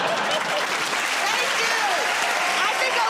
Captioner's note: laughter; applause